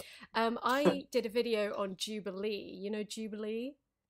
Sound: laughs

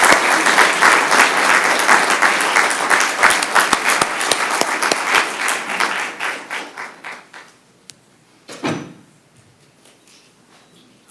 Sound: applause

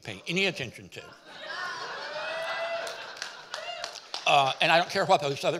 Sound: audience laughing and cheering

